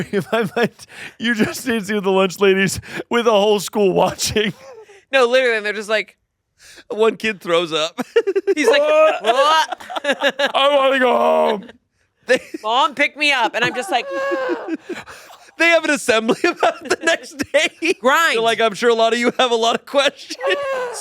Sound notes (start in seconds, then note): 8.0 laughs; 10.9 groans; 11.0 groaning